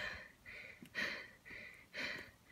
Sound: breathe

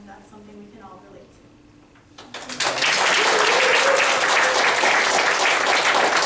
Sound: applause

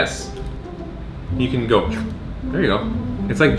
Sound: slurps

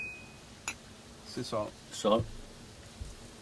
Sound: speaking

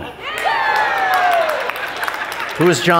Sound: crowd cheers

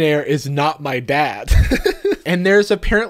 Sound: laughs

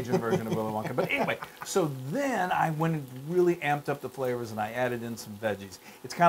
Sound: laugh

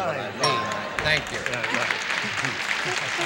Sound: ding; applause

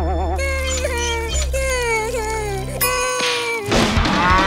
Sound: crying

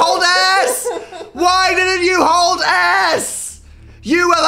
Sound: laughing

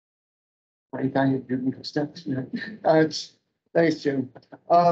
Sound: speaking faintly

